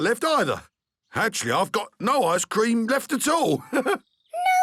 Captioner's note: chuckles